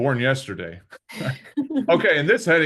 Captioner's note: chuckles